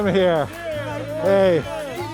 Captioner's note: group of people cheering